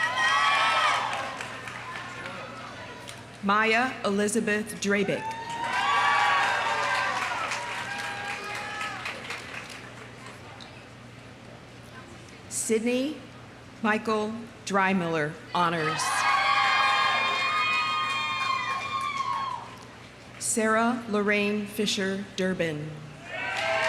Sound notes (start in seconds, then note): 0.0 audience cheering; 0.0 audience applauding; 5.1 audience cheering; 5.2 audience applauding; 15.8 audience cheering; 16.3 audience applauding; 23.2 audience cheering; 23.3 audience applauding